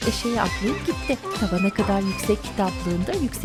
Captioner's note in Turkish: Eşek sesi